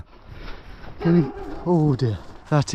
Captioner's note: dog barking